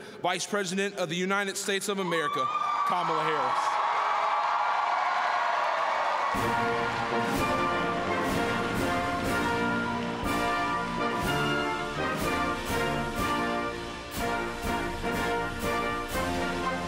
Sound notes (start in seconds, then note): 4.9 applause